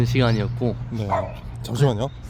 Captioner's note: barking